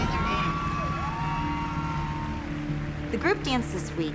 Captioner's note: cheering and applause